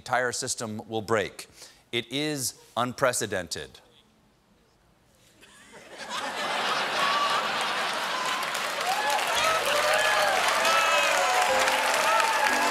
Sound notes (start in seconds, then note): 5.0 applause; 5.3 laughter; 11.1 piano riff